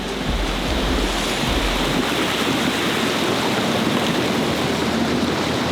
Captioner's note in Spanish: agua removiéndose